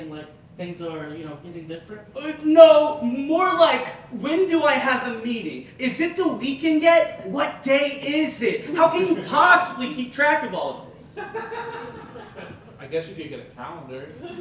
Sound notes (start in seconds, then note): 11.1 audience Laughing